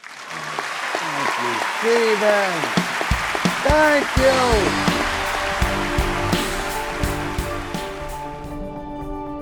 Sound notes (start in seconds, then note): 2.5 audience cheers and applauds